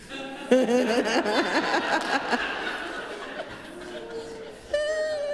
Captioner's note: laughter